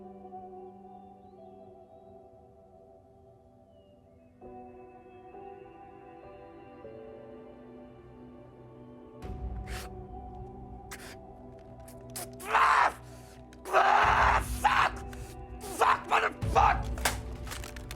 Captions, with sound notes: (Nathan crying) (Nathan screams) Fuck! Fuck, mother fuck!